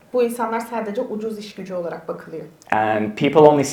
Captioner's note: speaks in Turkish